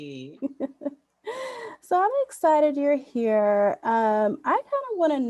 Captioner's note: laughs